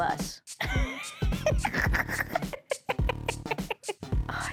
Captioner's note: laughs to herself